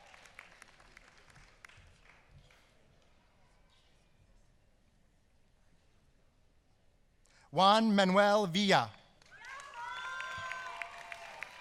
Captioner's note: applause